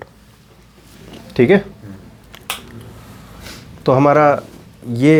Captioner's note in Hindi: नाक से की जाने वाली आवाज़